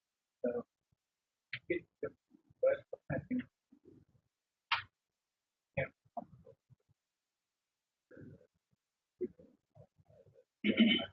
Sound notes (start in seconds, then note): 0.8 man speaks through warped and choppy audio